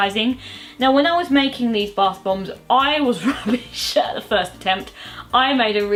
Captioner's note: laughs